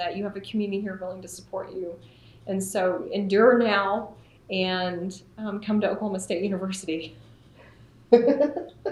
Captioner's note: laughter